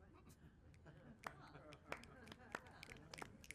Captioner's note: clapping